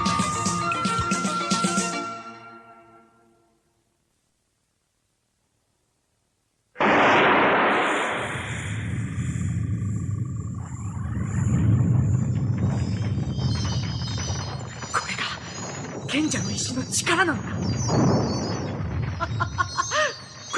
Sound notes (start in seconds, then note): 6.7 SFX: blast; 9.2 SFX: magic sounds; 13.2 SFX: cave collapsing; 13.2 SFX: magic sounds